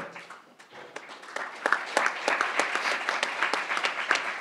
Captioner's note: crowd applauding